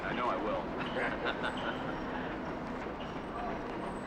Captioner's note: laughs